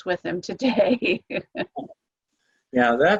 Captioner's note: laughter